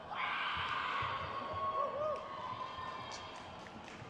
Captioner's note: crowd cheers